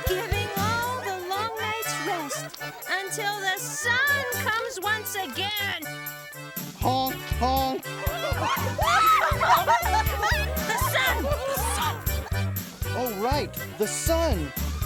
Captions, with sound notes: - Giving all a long night's rest until the sun comes once again. - Honk, honk! (audience laughs) The sun! The sun. - Oh right, the sun.